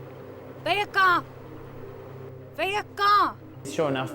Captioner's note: speaking portuguese